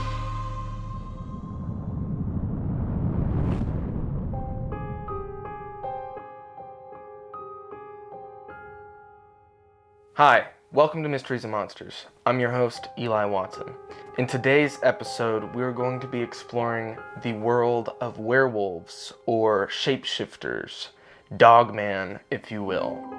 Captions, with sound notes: (air whooshing) (eerie mysterious music) - Hi, welcome to "Mysteries and Monsters". I'm your host Eli Watson. In today's episode, we are going to be exploring the world of werewolves, or shapeshifters, dogman, if you will.